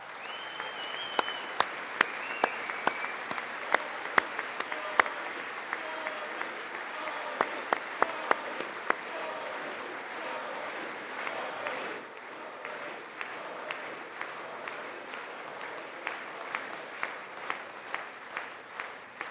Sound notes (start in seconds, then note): 3.6 applause